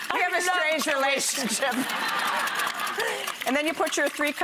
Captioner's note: laughing